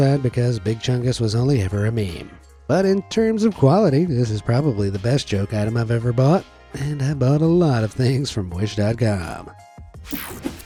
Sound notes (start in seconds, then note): none